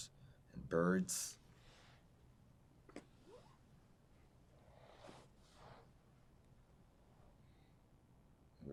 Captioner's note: pauses 6 seconds